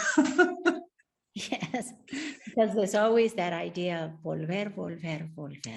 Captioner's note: laughs; speaks Spanish